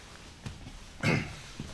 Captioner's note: partner coughs